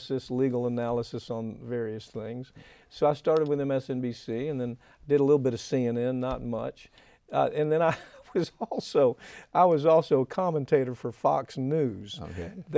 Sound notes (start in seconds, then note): 8.8 laughing